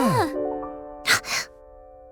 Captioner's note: laugh; gasp